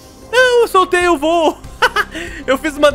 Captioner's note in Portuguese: risos